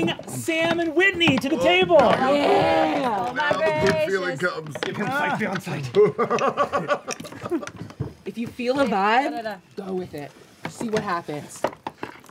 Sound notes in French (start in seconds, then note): 5.8 rire